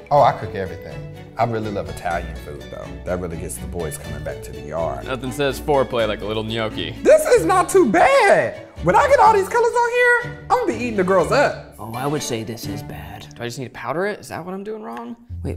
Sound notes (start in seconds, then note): none